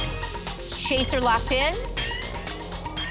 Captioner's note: chime, ticking